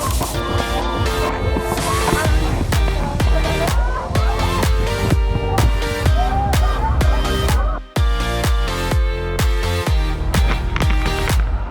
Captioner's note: cheering